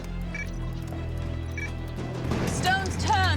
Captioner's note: short beeping on monitor